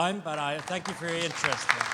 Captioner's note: audience applause